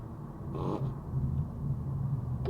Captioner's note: pffft